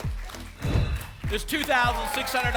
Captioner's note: whoosh